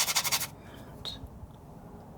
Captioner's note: scratching